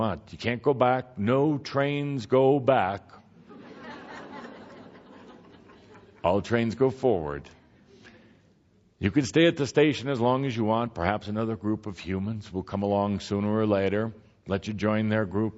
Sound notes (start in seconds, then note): 3.4 laughter